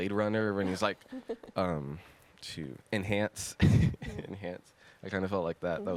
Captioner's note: laughs